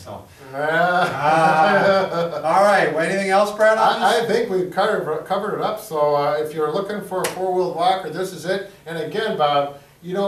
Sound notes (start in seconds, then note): 0.7 guys laugh